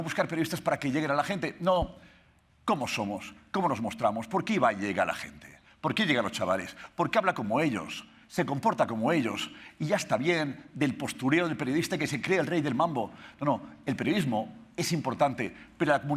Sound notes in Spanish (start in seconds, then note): none